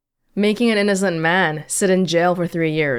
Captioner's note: none